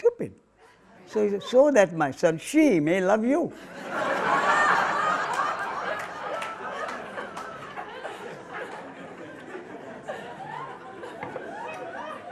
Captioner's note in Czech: smích